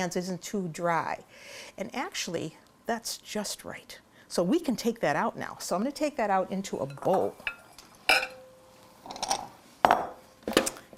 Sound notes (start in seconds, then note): 7.4 clattering